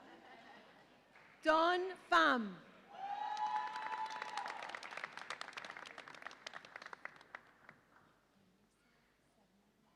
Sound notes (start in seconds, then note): 3.0 audience applauds and cheers